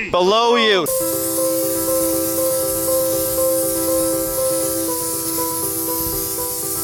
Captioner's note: air blowing; lighthearted piano music